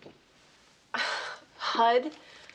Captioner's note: Allison sighs